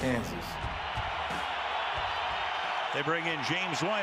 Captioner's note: crowd cheering